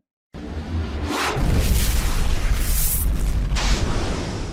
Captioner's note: fire explodes